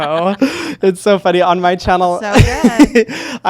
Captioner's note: laughs